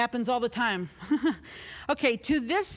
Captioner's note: chuckling